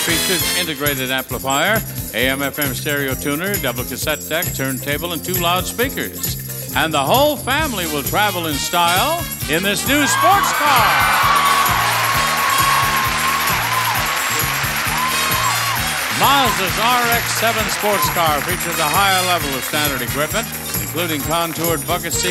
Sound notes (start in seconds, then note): 10.8 audience cheering; 10.8 upbeat music